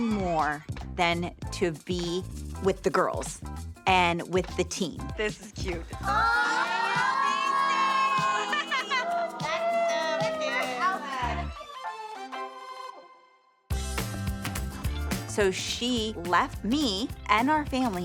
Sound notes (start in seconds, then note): 5.9 all exclaim; 8.7 whooping; 10.9 upbeat music playing